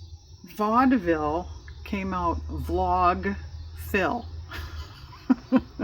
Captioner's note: laughs